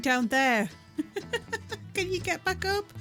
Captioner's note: laughing